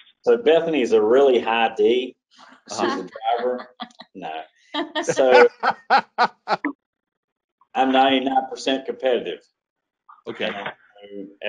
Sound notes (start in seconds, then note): 4.8 laughing